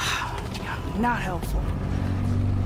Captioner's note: sighs